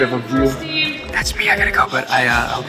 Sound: overlapping crew chatter

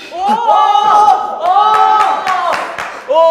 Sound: terrified

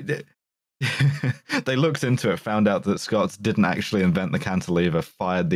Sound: laughs

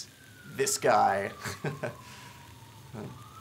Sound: sigh

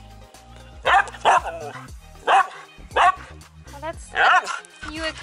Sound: Laska barking

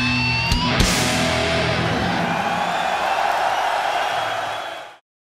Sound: crowd cheering

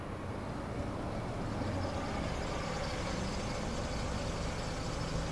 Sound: engine whirring

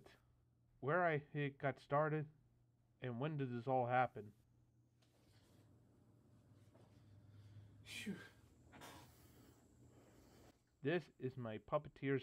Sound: phew

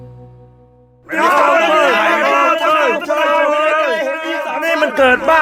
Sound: crowded mob

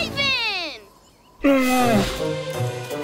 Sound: grunting

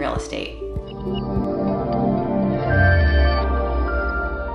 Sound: gentle chiming

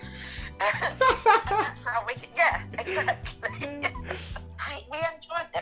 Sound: both of them laugh

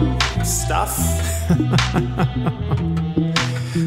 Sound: laughs

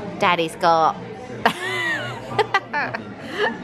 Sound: laughs

